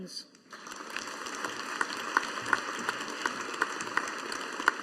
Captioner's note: audience applauding